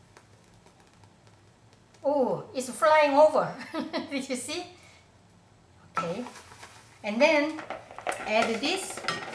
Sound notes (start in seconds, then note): 3.8 laughs